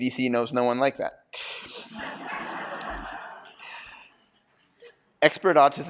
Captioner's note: laughter